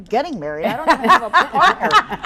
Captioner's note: laughing